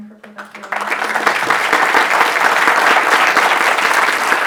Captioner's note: audience clapping